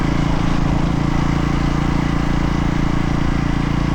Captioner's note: engine revving